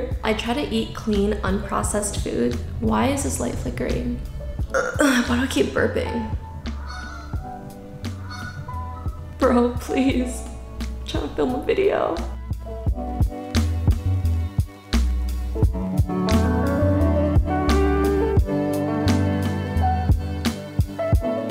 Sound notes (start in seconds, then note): 4.6 burp; 6.6 geese noises